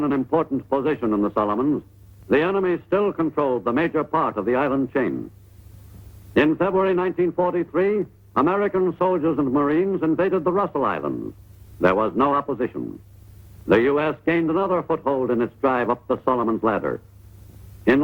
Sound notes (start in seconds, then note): none